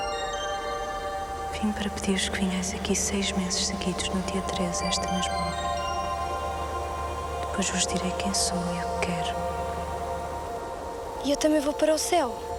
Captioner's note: speaking portuguese